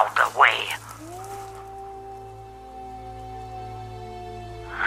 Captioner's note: wolf howling